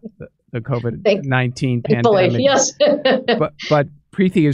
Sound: laughing

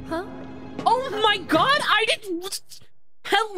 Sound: stammers

